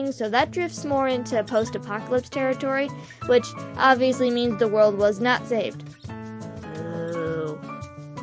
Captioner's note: boooooooo